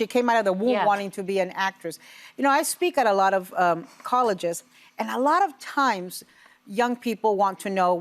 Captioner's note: none